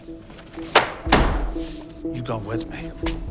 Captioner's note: slamming file